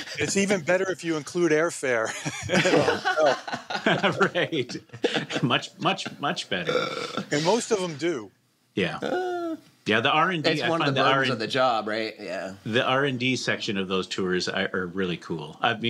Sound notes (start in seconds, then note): 2.0 laughter